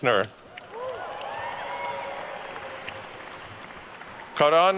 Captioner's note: attendees cheering and applauding